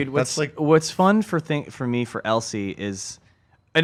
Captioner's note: none